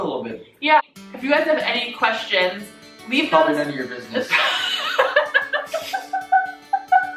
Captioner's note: laughing